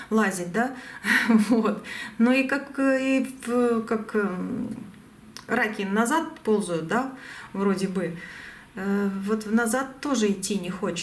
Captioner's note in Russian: смех